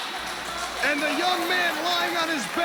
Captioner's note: crowd cheering